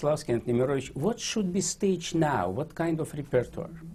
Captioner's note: russian